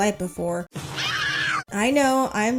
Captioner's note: Veronica screaming in pain